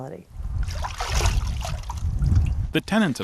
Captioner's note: water splashing